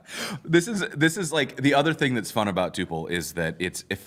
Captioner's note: laughs